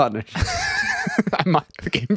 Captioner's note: laughing